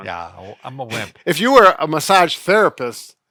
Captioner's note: none